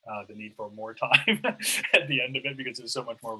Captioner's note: laughing